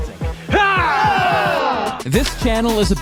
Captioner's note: everyone shouting